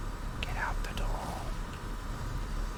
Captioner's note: whispering